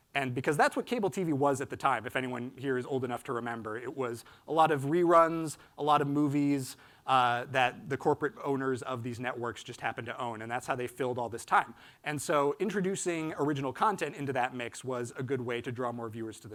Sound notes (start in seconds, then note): none